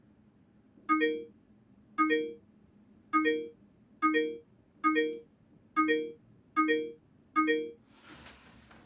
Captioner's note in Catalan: Sonen notificacions del mòbil